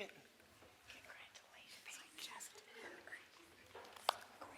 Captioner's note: whispers off microphone